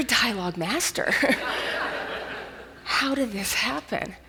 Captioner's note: audience laughs